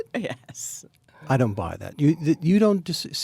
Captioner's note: laughs